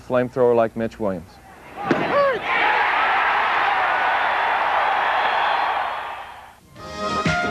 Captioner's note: applause